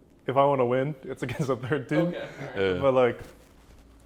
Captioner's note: laughs